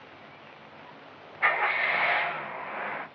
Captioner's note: engine starts